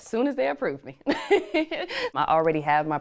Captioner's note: laughter